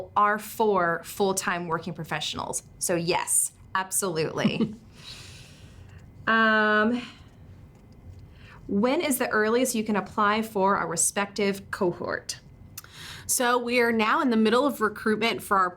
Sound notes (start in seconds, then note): 4.3 chuckles